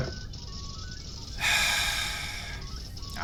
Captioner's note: sights